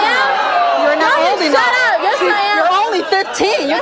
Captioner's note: overlapping chatter